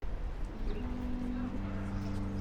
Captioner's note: birds singing; wind gushing